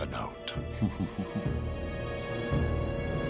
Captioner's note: chortle